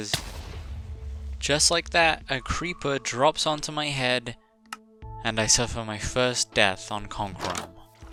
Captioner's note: creeper explosion